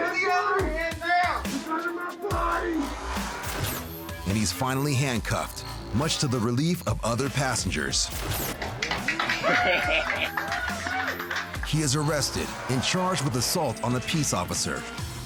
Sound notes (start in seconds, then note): 8.5 applause; 9.0 man laughs